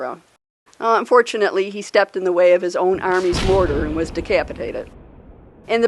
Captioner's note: canon Ball Mortar Sound